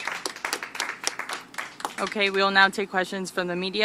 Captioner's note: applause